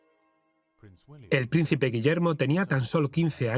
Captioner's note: voiceover